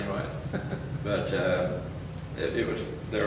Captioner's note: chuckles